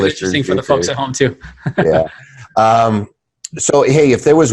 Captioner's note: laughing